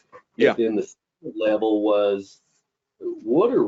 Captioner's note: audio distortion